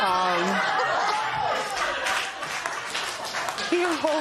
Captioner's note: laughter